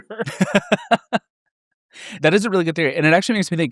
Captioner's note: laugh